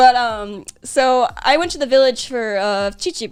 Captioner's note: none